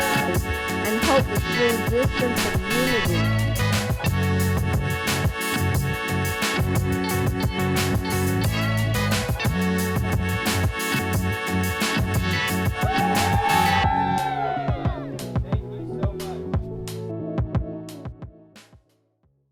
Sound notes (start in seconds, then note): 0.0 cheering; 12.8 cheering